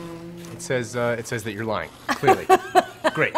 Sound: laughs

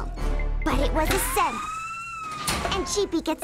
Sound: alarm wails

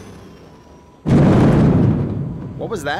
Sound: bang on the outer hull

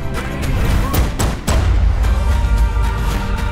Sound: gunshots banging; upbeat music

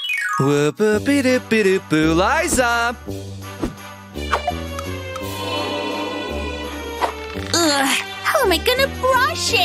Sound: singing; grumbles

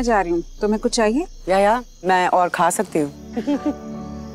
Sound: laughs

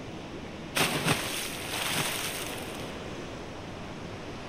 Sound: splash

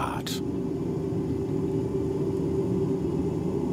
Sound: continuous whirring

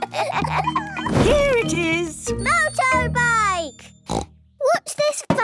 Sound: snort

